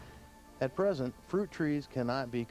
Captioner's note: voiceover